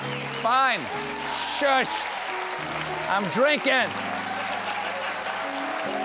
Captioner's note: applause; laughter